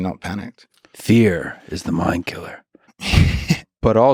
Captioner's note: Craig laughs